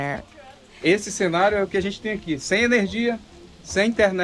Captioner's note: non-english speech